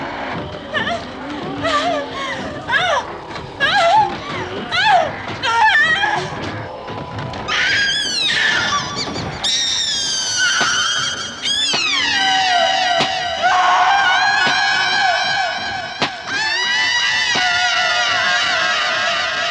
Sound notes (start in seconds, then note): 2.6 whimpering; 7.5 screams; 13.4 screaming continues - echoing